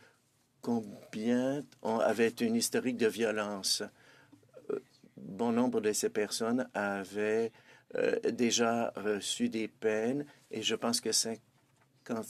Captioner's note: speaking French